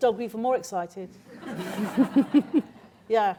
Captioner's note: laughter